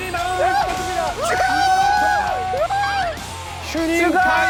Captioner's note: hurray